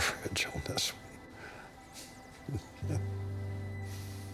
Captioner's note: chuckles